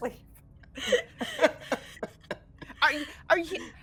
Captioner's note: all laughing